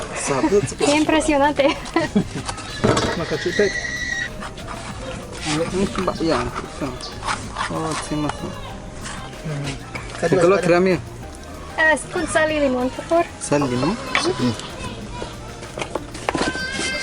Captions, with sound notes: How impressive! [Speaking Mayan] With salt and lime, please. With salt and lime. Yes.